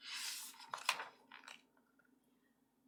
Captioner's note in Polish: szelest kartki